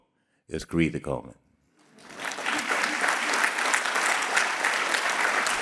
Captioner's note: audience clapping